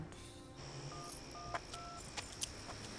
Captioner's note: touch tones beeping